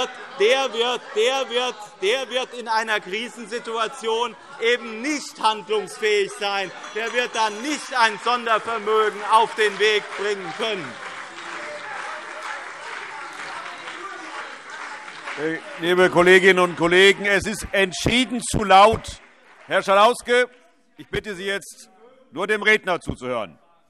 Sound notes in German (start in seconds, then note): 6.4 Anhaltende Zurufe